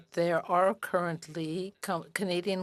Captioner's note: speaking French